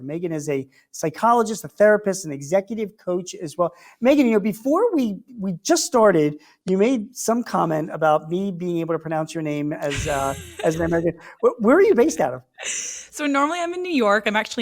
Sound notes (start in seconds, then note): 9.8 laughs